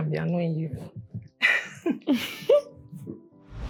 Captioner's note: both laugh